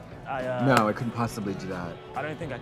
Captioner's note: claps hands